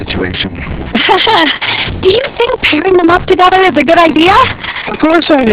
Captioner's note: laughs nervously